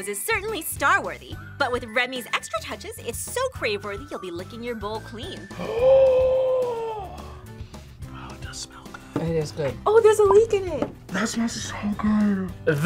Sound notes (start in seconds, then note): 5.6 gasps; 8.0 whispers